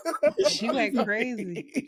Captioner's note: laughing